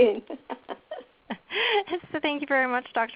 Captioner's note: laughter